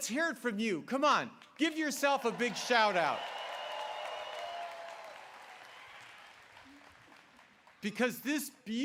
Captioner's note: applause